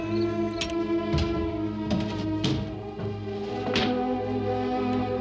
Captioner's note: wood and metal clattering